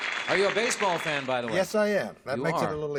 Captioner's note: applause